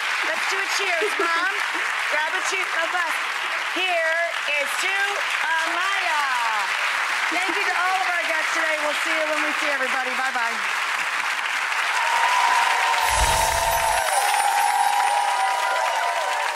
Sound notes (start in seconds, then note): 6.5 audience loudly applauding; 11.6 audience cheering